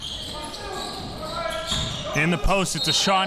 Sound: crowd yelling

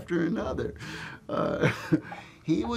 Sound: laughs

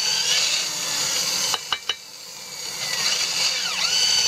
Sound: tapping

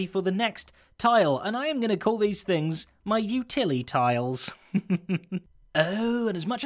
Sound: chuckles

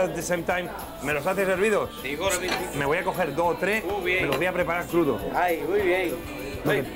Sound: speaking spanish

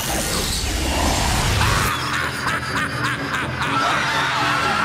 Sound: evil laughter

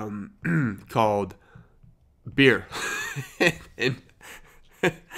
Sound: laughs

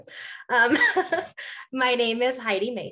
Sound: laughing

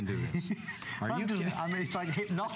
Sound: laughter

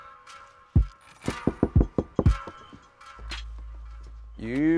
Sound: knocking

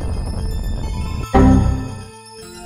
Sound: windows error sound

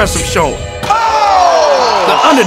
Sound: crowd cheering

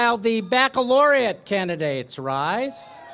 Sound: applause, cheering

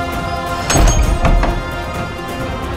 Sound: door creaks

